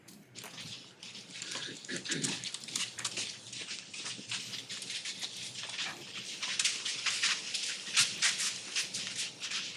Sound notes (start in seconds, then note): 3.4 footsteps